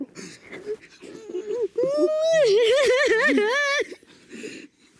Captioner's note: crying loudly